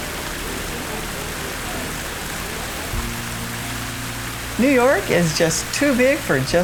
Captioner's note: water running